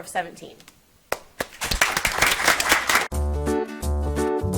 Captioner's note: audience applauds; upbeat music